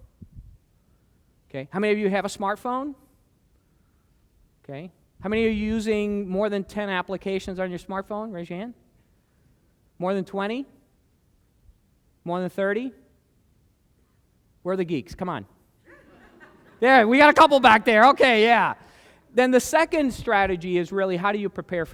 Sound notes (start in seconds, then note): 15.8 laughter